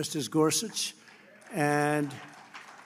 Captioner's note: applause